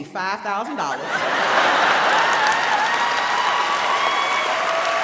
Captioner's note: audience laughs